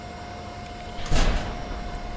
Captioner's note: bang